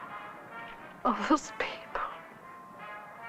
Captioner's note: sobbing